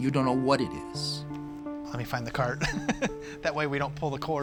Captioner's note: laughs